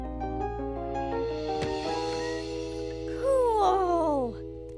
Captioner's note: gasping